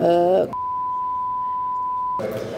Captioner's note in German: Piepton